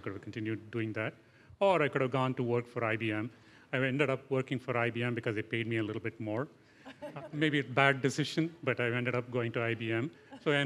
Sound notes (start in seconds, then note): 6.8 laughter